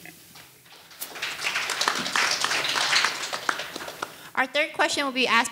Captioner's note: audience applauding